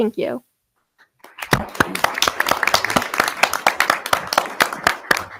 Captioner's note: audience applauding